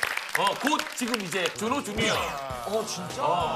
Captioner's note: Suddenly / A round of applaud for Junho